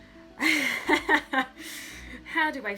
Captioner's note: laughs